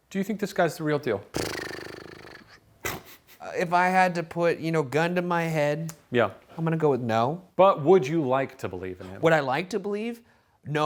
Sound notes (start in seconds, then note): 1.3 blowing raspberries; 2.8 chuckling